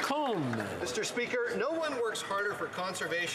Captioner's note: some Applause